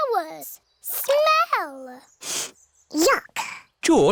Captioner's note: sniffs